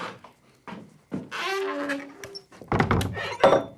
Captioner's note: door creaking